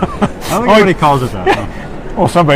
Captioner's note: laughs